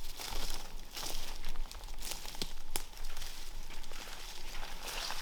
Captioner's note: footsteps crunching